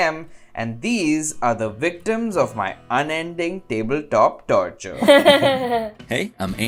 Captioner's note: laughter